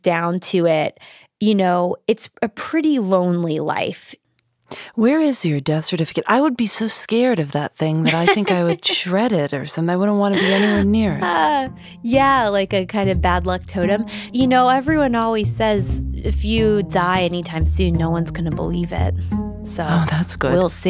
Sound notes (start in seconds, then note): 8.0 laughs